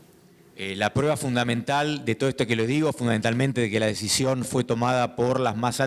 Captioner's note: speaking in foreign language